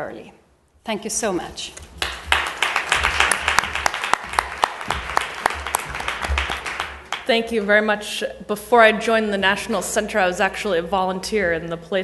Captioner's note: applause